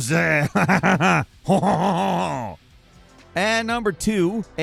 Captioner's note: laughing